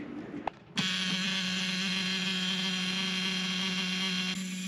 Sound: buzzer alarm

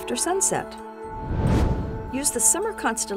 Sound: whoosh

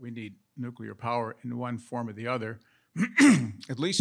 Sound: coughs

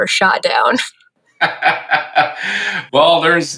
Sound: laughing

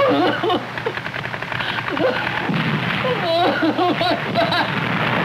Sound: crying

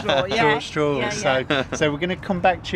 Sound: laughter

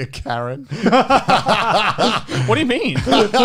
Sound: laugh

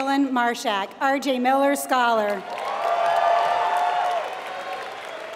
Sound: applause

